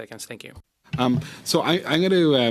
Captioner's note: speaking French